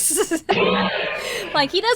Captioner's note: both laugh